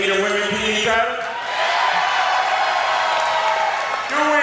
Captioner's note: audience cheers